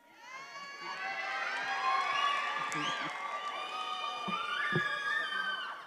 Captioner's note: attendees applauding and cheering